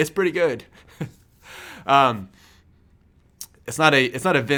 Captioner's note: laughs